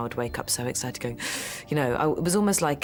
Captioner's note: gasps